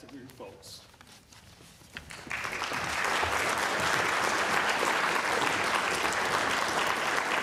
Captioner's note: applause